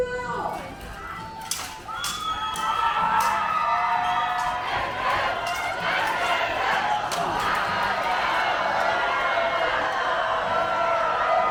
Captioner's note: cheers